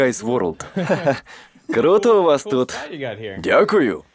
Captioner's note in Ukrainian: Сміється